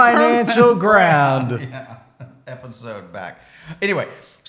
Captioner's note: laughs